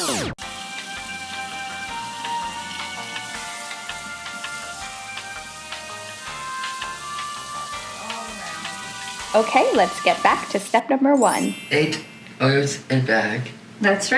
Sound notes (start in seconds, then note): 0.0 record scratch; 0.4 elevator music